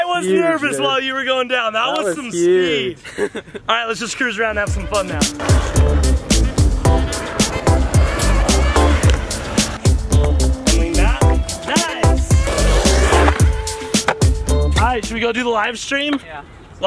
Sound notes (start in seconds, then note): 2.8 laughs; 6.7 light funky music